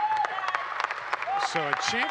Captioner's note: audience cheering and clapping